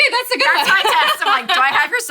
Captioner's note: laughs